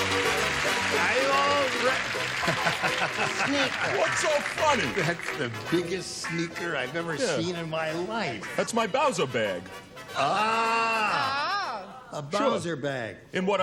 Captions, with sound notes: - How you all doing? [laughs] - What's so funny? - That's the biggest sneaker I've ever seen in my life. - That's my Bowzer bag. - Oh. A Bowzer bag.